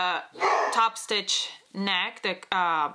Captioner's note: dog barks